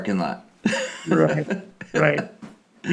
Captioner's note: laughing